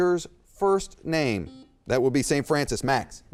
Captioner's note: beep